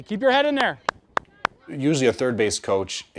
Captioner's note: clapping